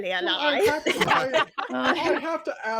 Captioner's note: laughs